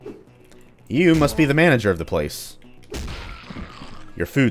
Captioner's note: double whack